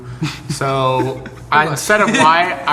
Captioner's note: laughing